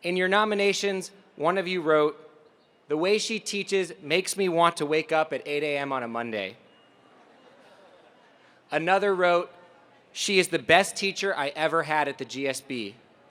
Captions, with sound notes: In your nominations, one of you wrote, the way she teaches makes me want to wake up at 8 AM on a Monday. >> [LAUGH] >> Another wrote, she is the best teacher I ever had at the GSB.